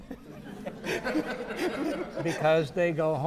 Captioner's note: audience laughing